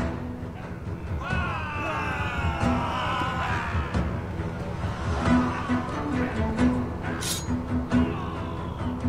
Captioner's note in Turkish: Hücum sesleri